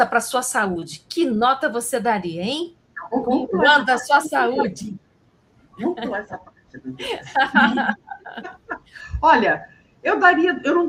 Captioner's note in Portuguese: risadas